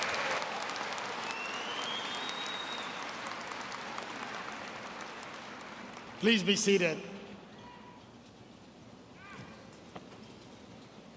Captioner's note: applause